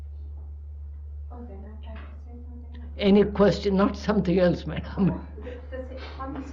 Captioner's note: laughs